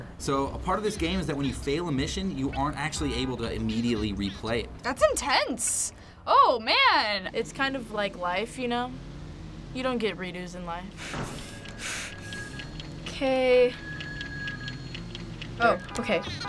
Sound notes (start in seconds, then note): 10.9 breathes heavily; 12.1 telephone ringing